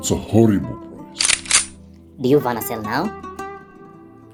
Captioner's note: cocks gun